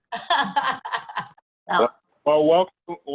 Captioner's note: laughter